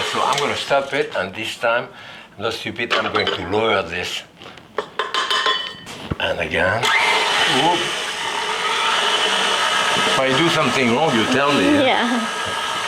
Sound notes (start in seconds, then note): 4.8 cup clinking; 6.8 mixer whirring